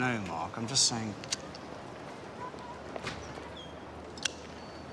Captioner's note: lighter flicks